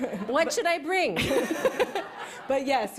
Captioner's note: laughter